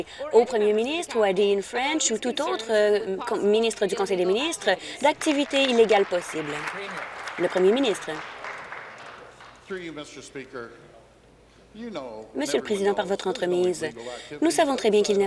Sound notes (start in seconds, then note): 8.1 applause